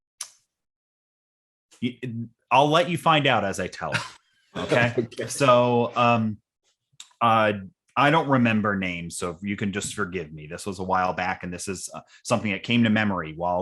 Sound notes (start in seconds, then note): 4.6 chuckling